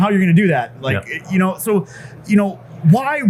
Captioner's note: stutters